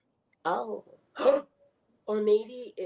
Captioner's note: gasps